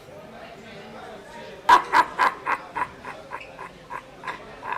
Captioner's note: laughing